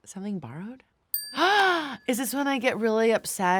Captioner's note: tone dings